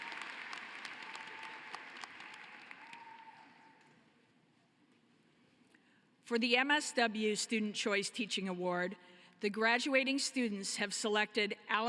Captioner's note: applause